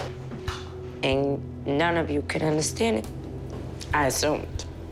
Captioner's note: voice breaking